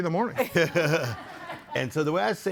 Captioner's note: laughs